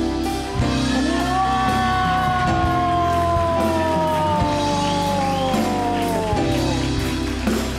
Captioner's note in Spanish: Ovación